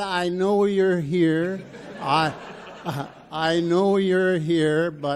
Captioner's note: audience laughs